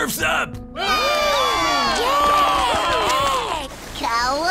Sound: cheering

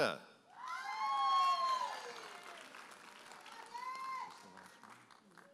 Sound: audience applauding and cheering

